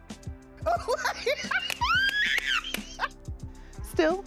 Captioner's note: laughs